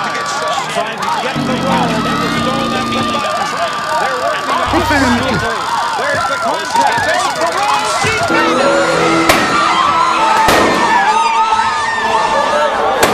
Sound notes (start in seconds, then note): 9.2 firework launches; 10.4 firework explodes